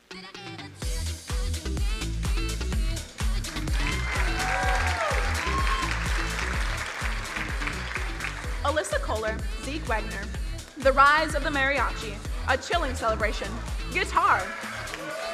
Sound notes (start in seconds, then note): 0.3 upbeat music; 3.2 crowd cheering and applauding; 14.2 crowd cheering